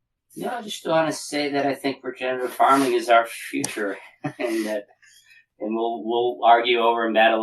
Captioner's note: laugh